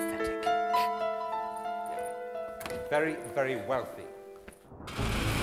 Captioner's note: laughs; soft orchestral music